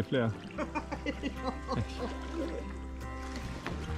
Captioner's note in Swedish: Skratt